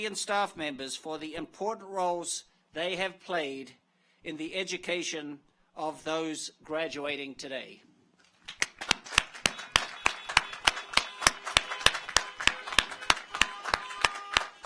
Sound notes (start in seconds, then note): 8.4 audience applauds; 9.4 car horns honking